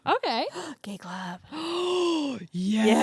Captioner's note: gasps